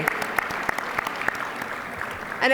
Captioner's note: applause